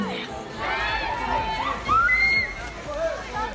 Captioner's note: fans shriek